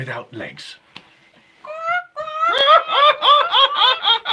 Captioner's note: imitating bird